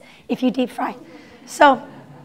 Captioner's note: laughter